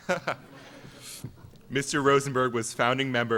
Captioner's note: everyone laughs